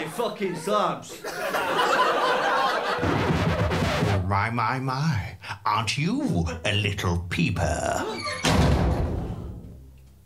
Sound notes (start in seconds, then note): 0.0 laughter; 2.9 record scratch; 8.4 metallic slam